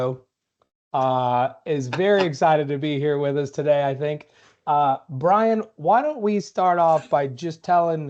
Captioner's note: laughter